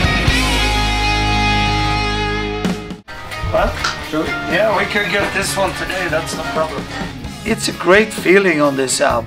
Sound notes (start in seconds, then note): 3.4 talking in the studio